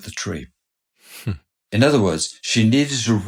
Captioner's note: chuckles